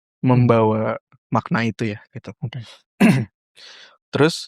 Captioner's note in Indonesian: berdehem